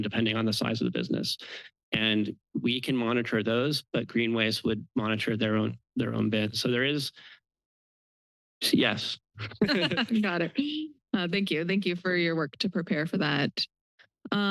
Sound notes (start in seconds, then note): 9.4 laughter